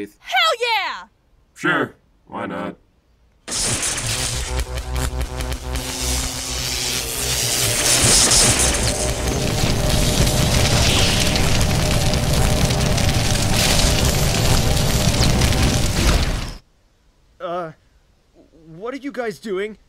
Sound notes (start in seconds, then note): 3.4 electricity discharges rapidly, energy hums softly and flames crackle